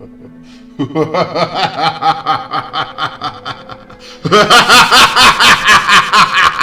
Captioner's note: mad Evil Laughter